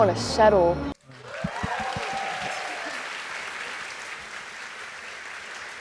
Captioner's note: audience applauding